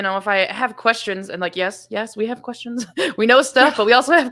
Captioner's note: laughs